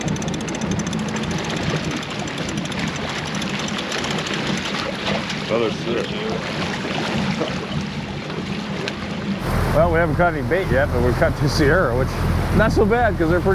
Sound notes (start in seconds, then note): 0.0 reel cranking; 7.8 splashing; 10.3 boat engine running